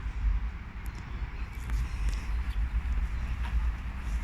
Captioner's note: distant street sounds